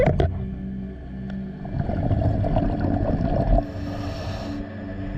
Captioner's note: underwater sounds continue